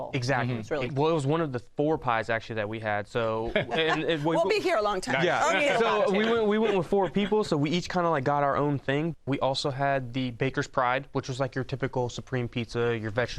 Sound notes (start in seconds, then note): 5.3 chuckles